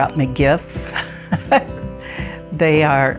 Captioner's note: laughs